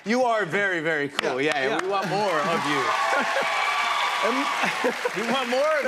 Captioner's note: cheers and applause